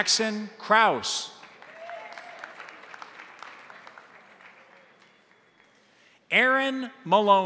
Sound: crowd applauding; crowd cheering

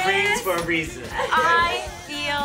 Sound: applause; cheers; laughter

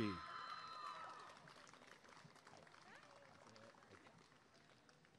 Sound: applause and cheering

